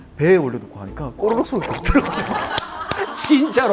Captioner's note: live broadcast of tummy sounds